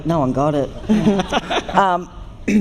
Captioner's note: laughter